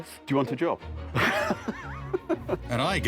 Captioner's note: laughing